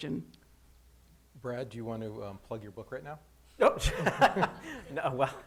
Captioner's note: laughs